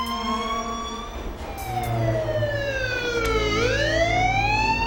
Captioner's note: police sirens blare